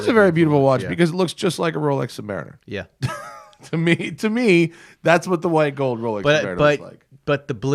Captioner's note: laughs